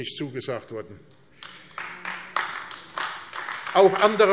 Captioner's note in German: Beifall AfD